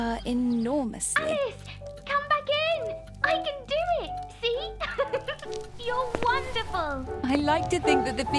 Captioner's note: laughs joyously